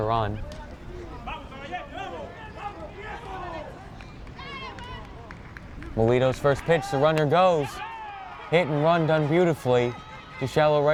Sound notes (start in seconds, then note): 0.9 fans yelling in foreign language